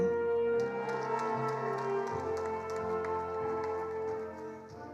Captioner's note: attendees applauding